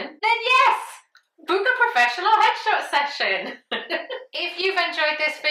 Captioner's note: laughs